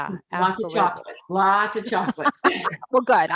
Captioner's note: laughs